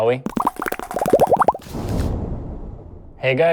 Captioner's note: bubbly sound